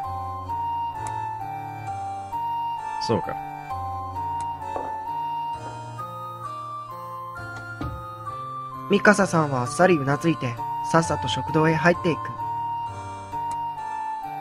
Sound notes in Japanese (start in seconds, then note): 0.1 ふわふわ空を流れるような品あるbgm; 4.6 足音：コツ; 7.5 扉の閉まる音：バタン